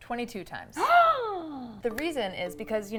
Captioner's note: gasping